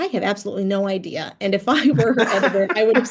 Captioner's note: laughing